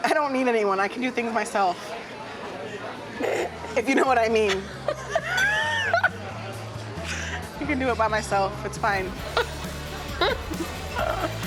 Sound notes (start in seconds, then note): 3.2 laugh; 8.9 laughs